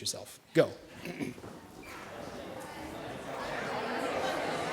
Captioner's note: background chatter